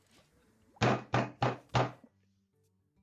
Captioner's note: hits table